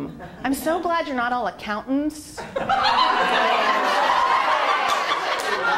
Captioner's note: laughter